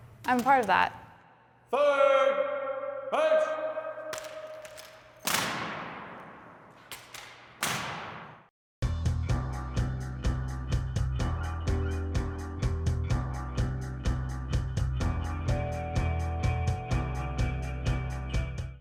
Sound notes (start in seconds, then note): 4.1 rifles smacking